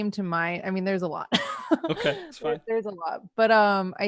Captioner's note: laughs